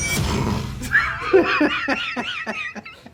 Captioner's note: both laugh